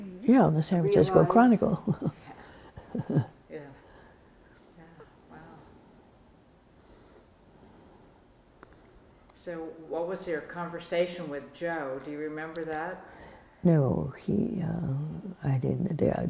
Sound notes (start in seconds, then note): 6.6 laughs